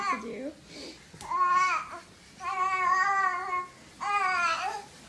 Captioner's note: babbles